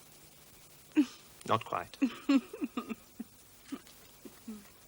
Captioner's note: laughs